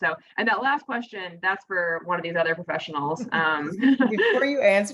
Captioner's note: laughs